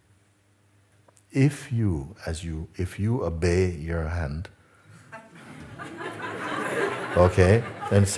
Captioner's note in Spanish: risas